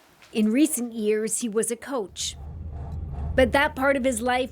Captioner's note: speaking alternate language